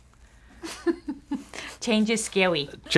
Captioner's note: giggling